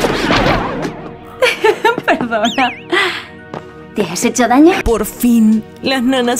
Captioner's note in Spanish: Risas